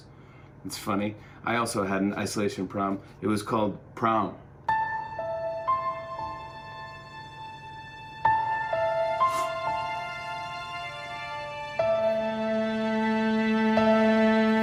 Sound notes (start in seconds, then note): 4.7 sad music plays; 9.1 sniffles